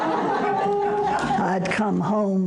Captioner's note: audience laughter